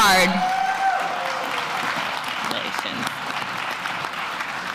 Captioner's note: applause